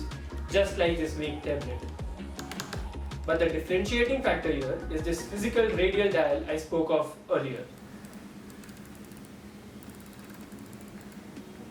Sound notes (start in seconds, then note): 2.4 buttons click; 8.4 dial clicks